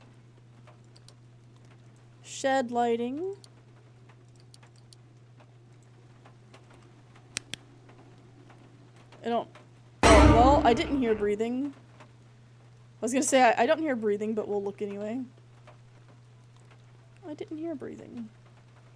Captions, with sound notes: Shed Lighting. [Flashlight Clicks On] I don't- [Suspense Noise] Well, I didn't hear breathing. I was gonna say, "I- I don't hear breathing, but we'll look anyway." I didn't hear breathing.